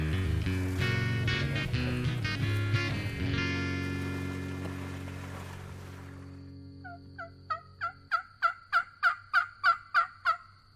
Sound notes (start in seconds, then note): 0.6 exciting music; 7.4 turkey calling